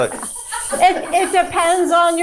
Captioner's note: crew members chuckling; chuckling